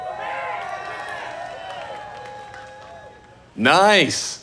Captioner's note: audience cheering